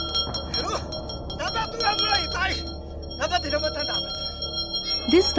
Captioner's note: intense bell jingling